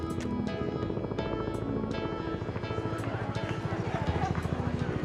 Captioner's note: gentle music; helicopter rotors whirring